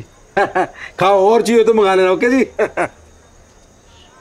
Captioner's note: Laughs